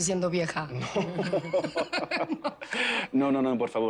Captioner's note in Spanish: Risas